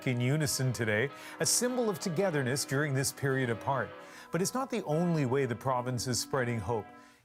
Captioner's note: bells tolling